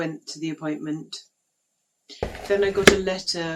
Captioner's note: letterbox opens and closes